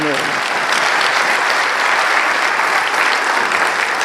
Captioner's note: applause